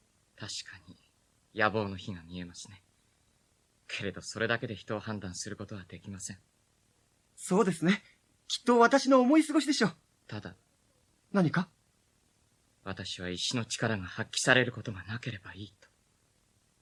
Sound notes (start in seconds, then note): none